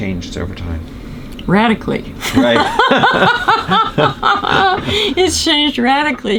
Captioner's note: laughter; laughs